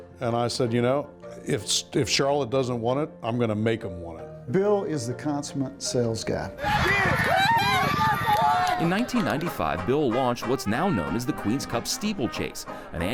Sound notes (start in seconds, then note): 6.6 crowd cheering and clapping; 6.6 horse hoofs beating